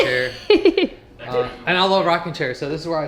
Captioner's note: laughs